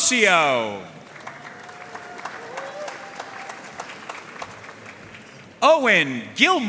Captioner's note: audience cheering and applauding